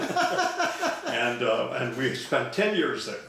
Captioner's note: laughing